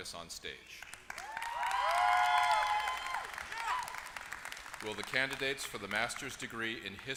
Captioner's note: applause